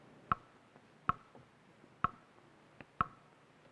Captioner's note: clock ticking